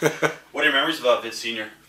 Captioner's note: Jesse chuckles